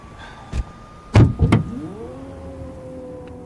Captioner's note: electrical door latch